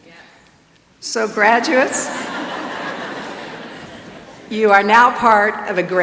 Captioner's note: laughs